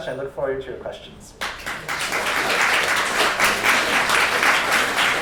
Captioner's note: applause